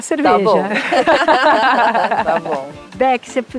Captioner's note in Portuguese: risos